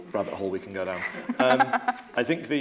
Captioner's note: laughing